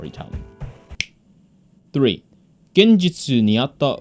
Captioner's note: fingers snap